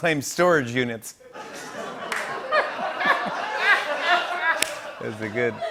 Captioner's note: laughter